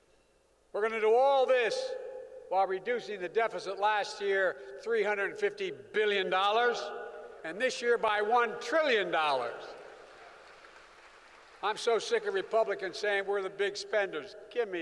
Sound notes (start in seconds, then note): 9.6 applause